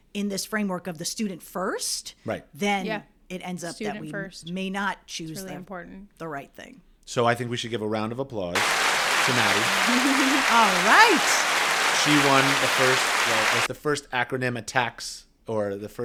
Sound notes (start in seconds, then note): 8.5 round of Applause plays